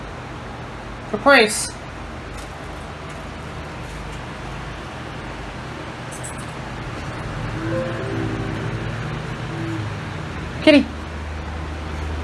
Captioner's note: computer sound